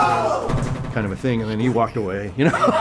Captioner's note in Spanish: Ríe